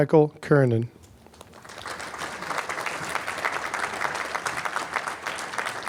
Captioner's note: applause